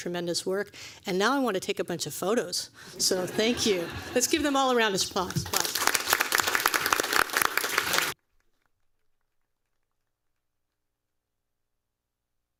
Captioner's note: applause